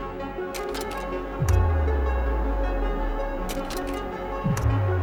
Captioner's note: projector slides clicking